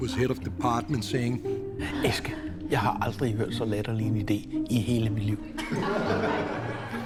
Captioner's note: speaking Danish; laughter